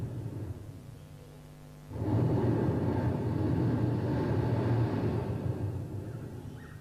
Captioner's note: shri mataji blows into the microphone; shri mataji blows into the microphone